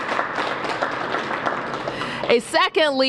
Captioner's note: applause